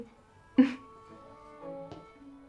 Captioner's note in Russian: усмешка